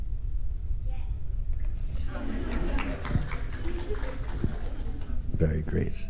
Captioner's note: clapping and laughter